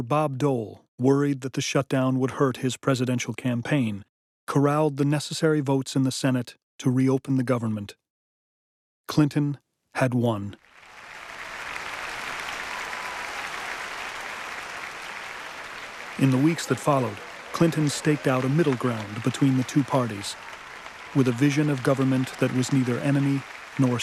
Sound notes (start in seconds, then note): 10.5 applause